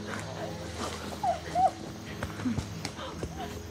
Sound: crying

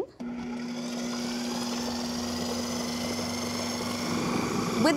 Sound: processor whirring

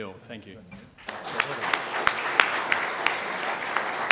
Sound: applause

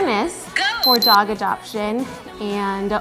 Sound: beeps

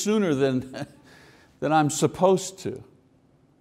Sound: chuckles

